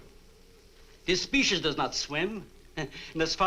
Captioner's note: chuckles